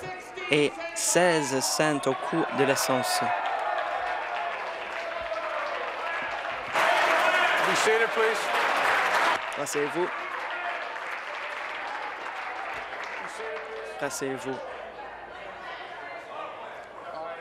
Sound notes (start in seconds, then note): 7.3 applause